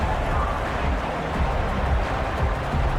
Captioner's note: crowd Noises